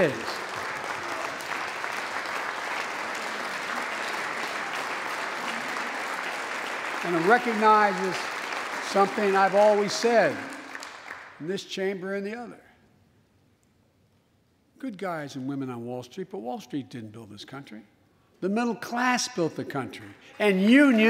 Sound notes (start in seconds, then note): 7.3 applause